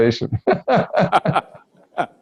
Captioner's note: both laugh